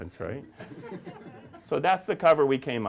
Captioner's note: audience laughing